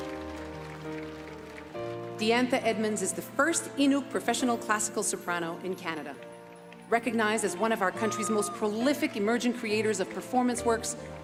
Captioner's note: applause